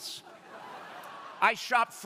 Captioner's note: crowd laughing